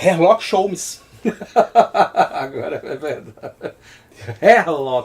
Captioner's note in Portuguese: Risos